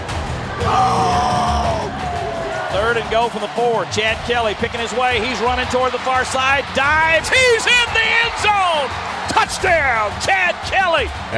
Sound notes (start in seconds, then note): 0.8 yelling; 2.8 voiceover